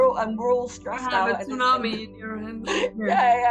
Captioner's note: chuckles